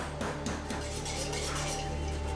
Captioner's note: scraping